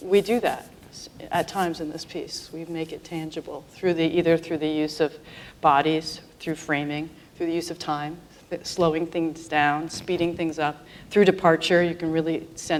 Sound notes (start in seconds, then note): none